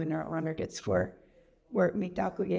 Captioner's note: speaks Indigenous language